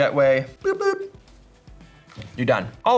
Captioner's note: boop boop